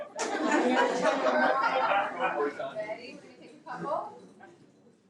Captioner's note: audience laughing